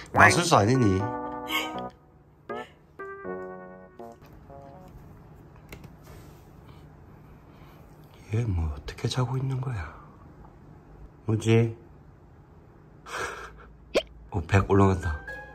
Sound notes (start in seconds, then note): 13.9 hiccup